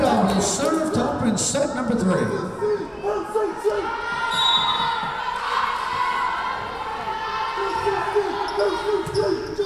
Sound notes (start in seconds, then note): 4.3 whistle blowing